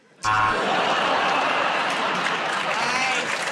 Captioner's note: buzzer; laughter and applause